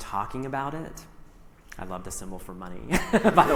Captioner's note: laughs